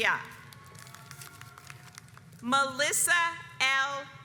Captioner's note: audience applauds